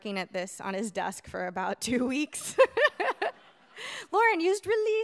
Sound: laughs

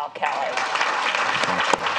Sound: clapping

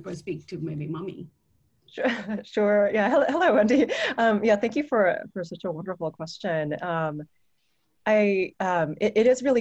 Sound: laughter

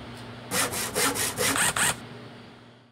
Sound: sawing; drilling

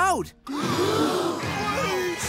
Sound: gasping

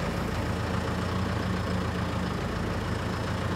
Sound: engine runs

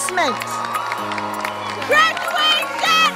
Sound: crowd cheering & applause

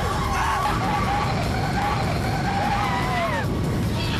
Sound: screams

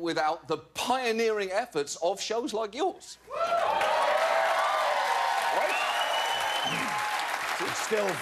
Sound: cheers and applause

